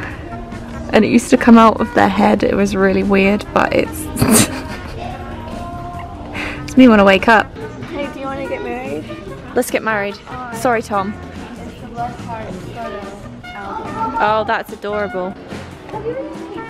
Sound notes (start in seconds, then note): 4.1 laughs